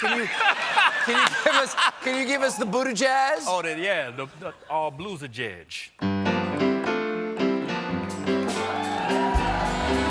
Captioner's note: laughter